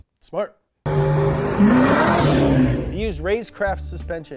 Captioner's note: car engine revving